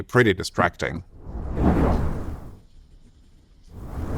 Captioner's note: whooshing